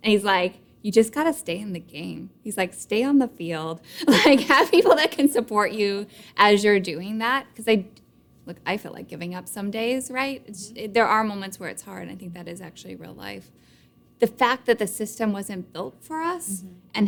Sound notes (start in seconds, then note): 4.3 laughing